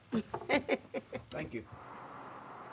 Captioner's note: worker laughs